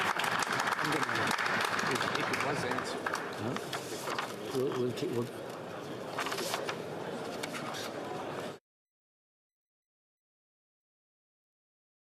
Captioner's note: applause